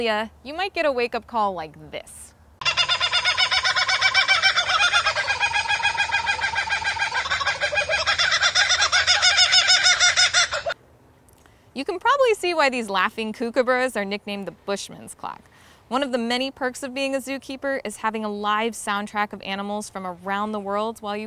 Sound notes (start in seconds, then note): 8.3 kookaburra laughing